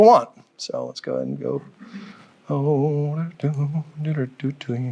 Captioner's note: faintly speaking